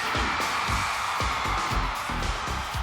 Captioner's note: applause